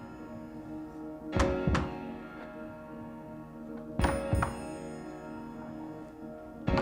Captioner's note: rhythmic tapping